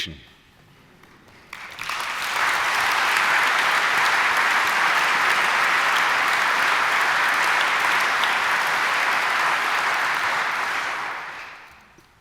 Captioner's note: applause